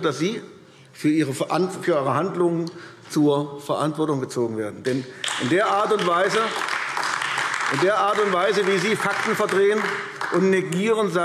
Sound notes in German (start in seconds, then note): 5.2 Beifall AfD